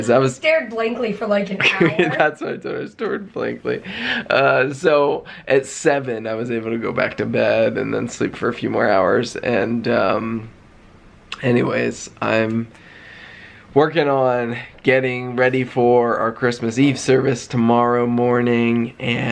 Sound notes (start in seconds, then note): 1.5 laughing